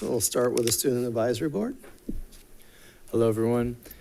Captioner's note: none